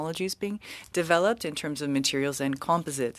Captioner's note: speaking french